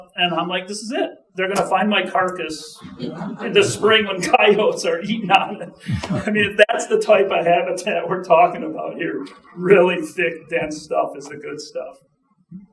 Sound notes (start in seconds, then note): 5.5 chuckling